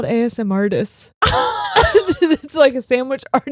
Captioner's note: laughing